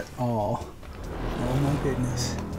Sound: spooky sounds

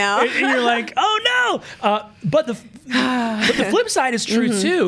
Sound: laughs; sighs

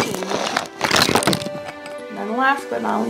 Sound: drawing paper scraping

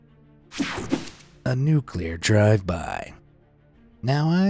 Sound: air whooshing

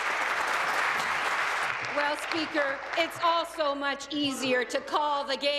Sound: applause

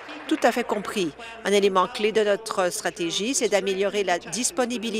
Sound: applause

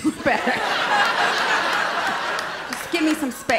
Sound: laughter

